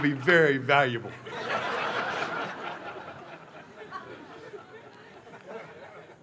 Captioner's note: laughter